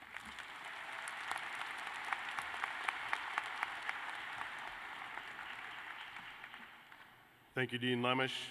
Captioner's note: applause